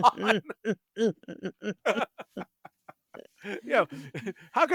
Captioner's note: laughing